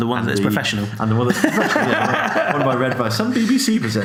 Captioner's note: laughs